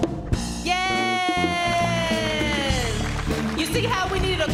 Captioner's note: audience applauds